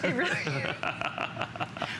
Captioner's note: laughter